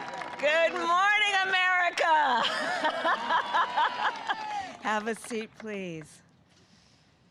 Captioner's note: applause; laughs